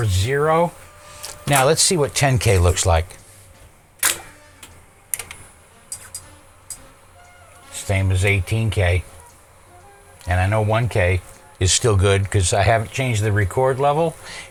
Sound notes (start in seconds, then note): 4.6 clicking